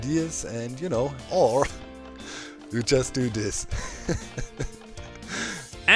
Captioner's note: tired laughter